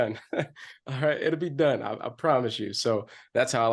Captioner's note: chuckles